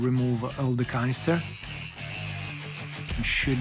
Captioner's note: saw buzzing